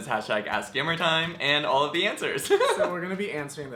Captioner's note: laughs